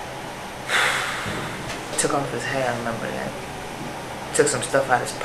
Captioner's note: sighs